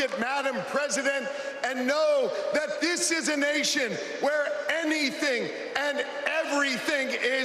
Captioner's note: cheers and applause